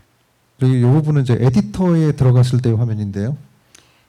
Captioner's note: speaking korean